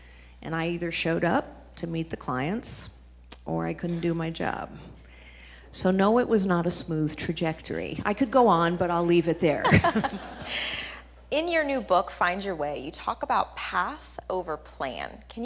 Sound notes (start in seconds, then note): 9.6 audience laughing